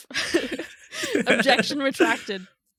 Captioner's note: laughing